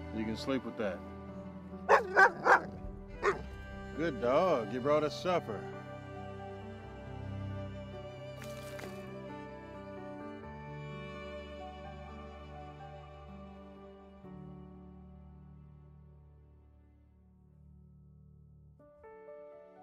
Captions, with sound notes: you can sleep with that. (Willamina barking) Good dog, you brought us supper. (gentle music)